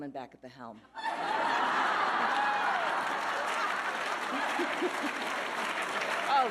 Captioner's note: audience laughing and applauding